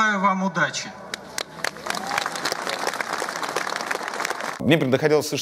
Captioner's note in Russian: аплодисменты